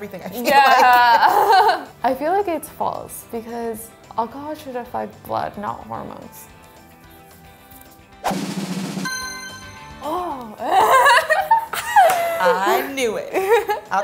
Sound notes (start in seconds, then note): 0.5 laughs; 8.3 drum roll; 9.0 dings; 10.6 both laugh